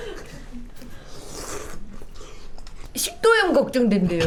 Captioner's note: slurp